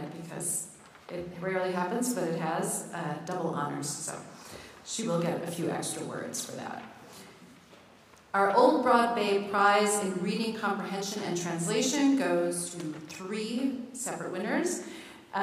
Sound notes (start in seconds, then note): none